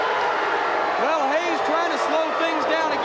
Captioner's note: audience jeers